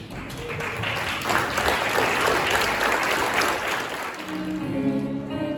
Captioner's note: applause